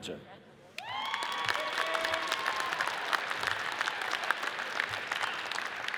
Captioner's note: audience cheers and applauds